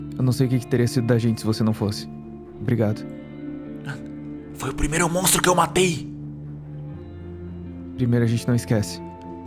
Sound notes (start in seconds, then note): 4.0 whisper